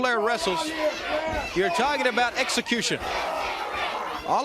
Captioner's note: crowd cheering